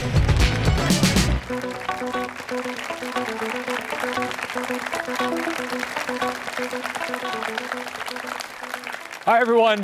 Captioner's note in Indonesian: Tepuk tangan